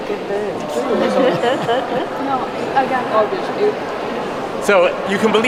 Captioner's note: audience murmurs